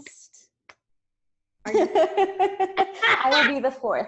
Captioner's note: both laugh out loud